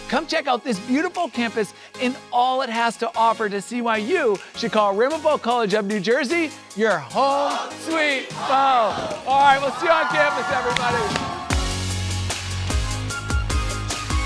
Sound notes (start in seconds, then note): 7.3 students cheering; 11.4 upbeat music